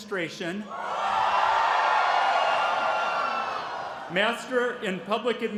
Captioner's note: cheering